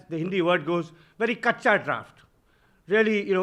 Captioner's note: speaking in Hindi